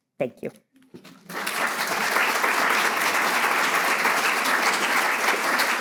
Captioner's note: audience applauding